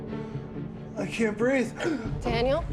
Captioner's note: gasps for air